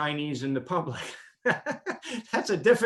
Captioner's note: laughs